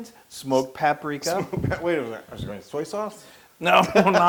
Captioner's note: laugh